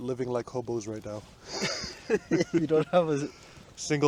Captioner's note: both laughs